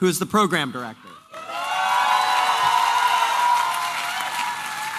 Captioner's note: applause and cheering